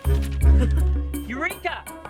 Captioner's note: Nigel laughs